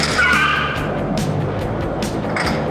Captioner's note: tires screech